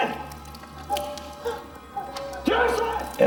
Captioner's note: water trickling; shouting in foreign language